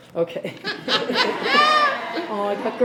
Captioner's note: laughs